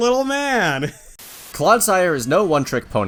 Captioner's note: both laugh; static